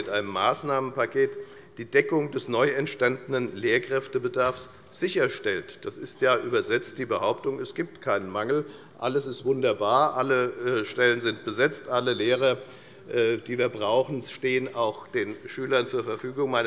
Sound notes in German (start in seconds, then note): none